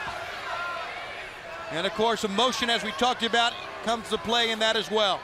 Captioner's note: crowd chatter